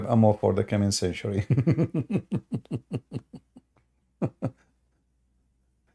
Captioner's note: Ketawa